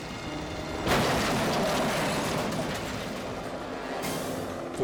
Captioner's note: cars crashing